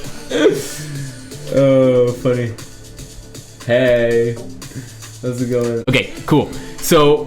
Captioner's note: laughs